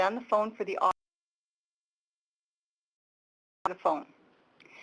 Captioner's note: audio cuts out